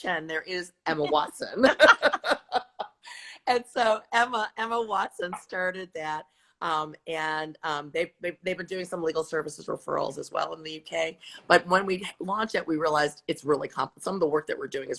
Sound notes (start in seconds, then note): 1.6 laughter